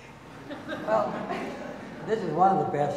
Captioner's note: audience laughing